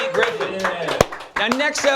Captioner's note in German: klatschen